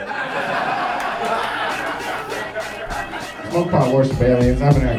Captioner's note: audience laughing